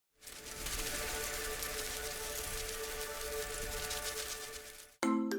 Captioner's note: butterflies Fluttering; peppy Music